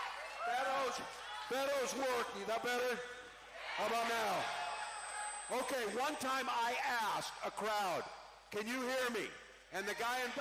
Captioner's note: cheering